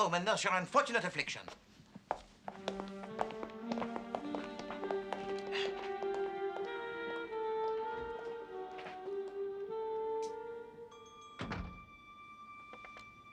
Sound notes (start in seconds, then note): 8.6 Pintu terbuka